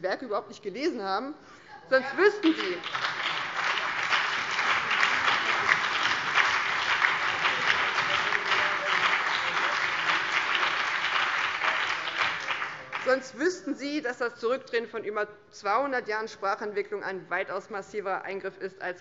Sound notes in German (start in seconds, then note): 2.4 Beifall BÜNDNIS 90/DIE GRÜNEN, vereinzelt CDU, SPD und DIE LINKE